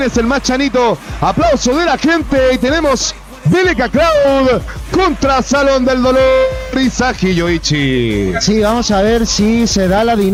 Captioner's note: applause from the crowd